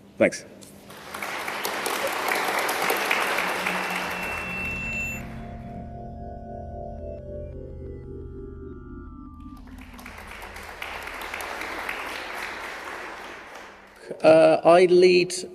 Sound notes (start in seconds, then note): 0.8 applause; 4.1 drone-like music; 9.4 applause